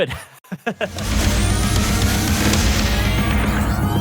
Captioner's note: laughing; metal music playing